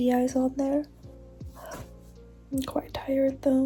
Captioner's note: yawnn